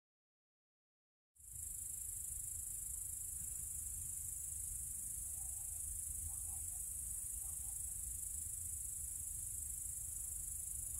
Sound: sound of crickets

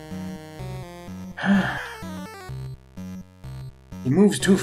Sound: sighs

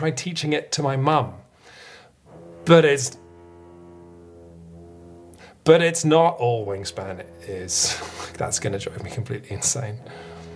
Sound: drilling sound

